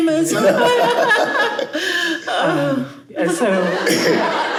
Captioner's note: chuckles